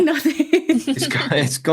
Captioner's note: laughing